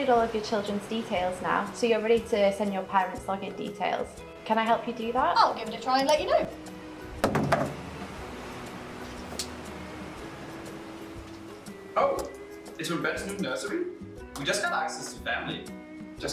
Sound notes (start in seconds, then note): 7.2 mobile phone clatters to the floor; 9.9 relaxing hawaiian music continues